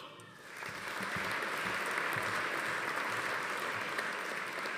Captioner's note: audience applauding